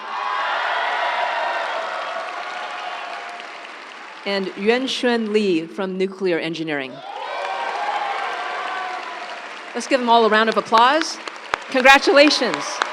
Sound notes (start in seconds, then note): 0.0 audience cheering; 0.0 audience applauds; 7.0 audience cheering; 7.0 audience applauds